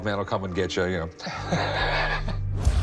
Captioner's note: chuckles